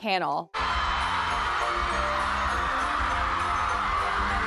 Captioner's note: crowd cheering